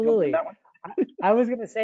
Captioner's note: laughing